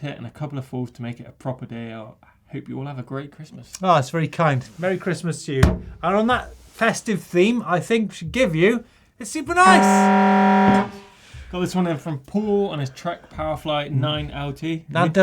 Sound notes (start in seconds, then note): 9.7 buzzer